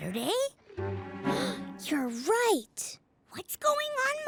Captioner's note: gasp